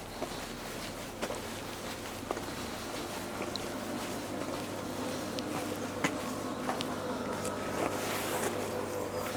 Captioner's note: footsteps and breathing